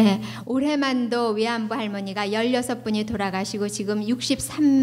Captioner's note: speaking foreign language